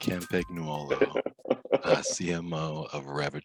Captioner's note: laughing